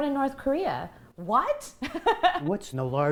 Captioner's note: laughter